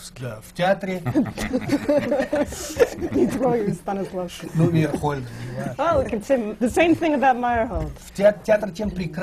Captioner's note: laughter; foreign language not transcribed